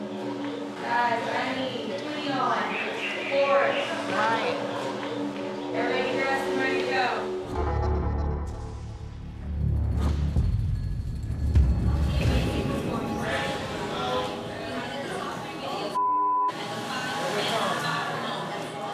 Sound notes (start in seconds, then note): 12.1 chatting, laughing